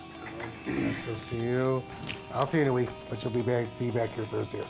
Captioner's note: doctor clears throat